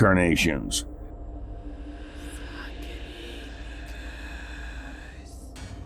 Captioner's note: spirits whispering